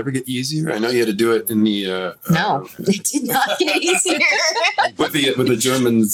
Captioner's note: laughs